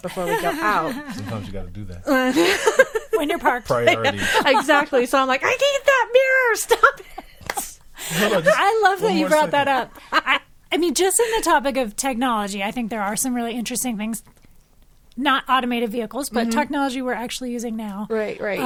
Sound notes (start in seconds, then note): 2.0 group laughing